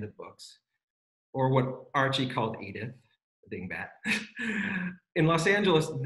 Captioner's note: laughs